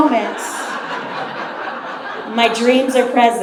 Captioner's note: audience laughs